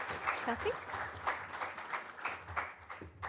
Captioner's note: applause